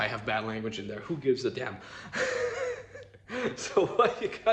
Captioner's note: laughs